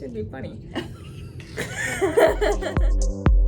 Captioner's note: both laughing; upbeat music